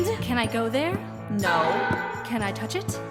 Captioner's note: scary noise